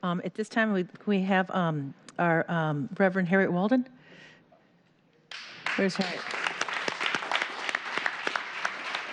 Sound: cheers and applause

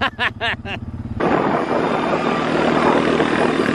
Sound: laughing

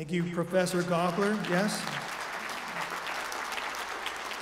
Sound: applause

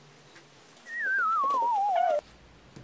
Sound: crying

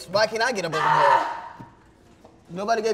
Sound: yelling

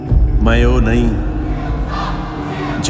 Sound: crowd cheering

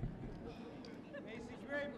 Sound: audience murmuring

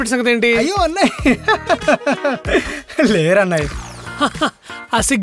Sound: laughs

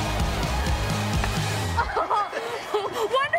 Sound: chuckles

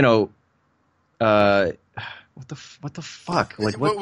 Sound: sighs

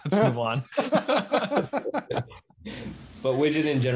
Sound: laughing

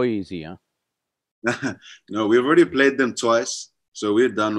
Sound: laughs

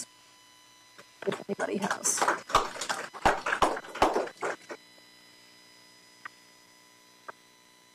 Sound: applause

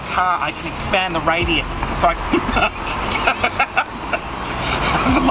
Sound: laughs

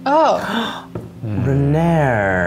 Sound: gasping

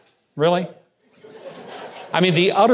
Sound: audience snickering

